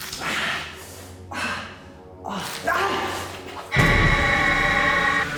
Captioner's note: Danny gasps; light dramatic music; woman screeching